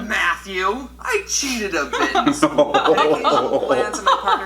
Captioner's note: both laugh